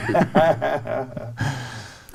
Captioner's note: group laughs